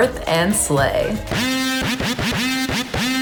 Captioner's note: air horn sound